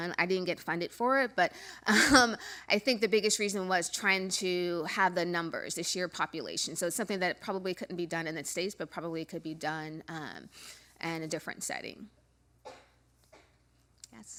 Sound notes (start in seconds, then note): 1.7 laugh